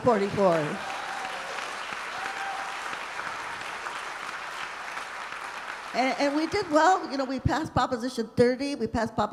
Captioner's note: applause